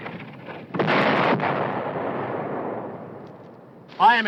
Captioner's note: bomb exploding